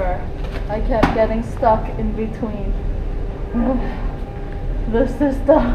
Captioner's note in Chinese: 嘆息